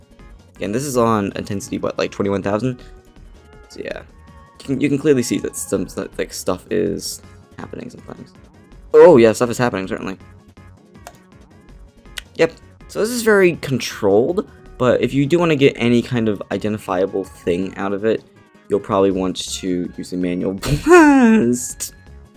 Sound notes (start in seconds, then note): 11.0 click; 20.7 laughs